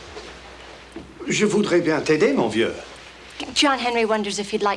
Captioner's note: John speaks French